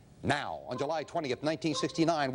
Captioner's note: beeping